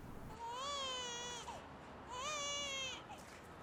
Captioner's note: baby crying